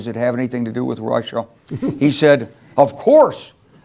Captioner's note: laugh